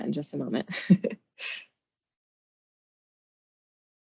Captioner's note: chuckles